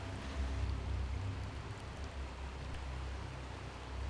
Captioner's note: water gushing